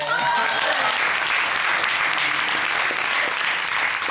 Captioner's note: audience cheers and applauds